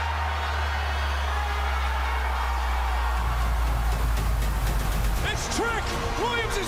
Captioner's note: crowd cheers